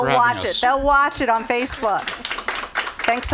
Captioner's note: audience applause